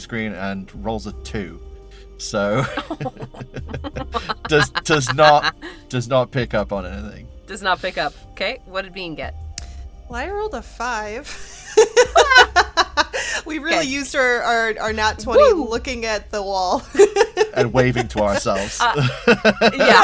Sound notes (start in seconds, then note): 2.5 chuckle; 11.5 laughs; 16.8 laughs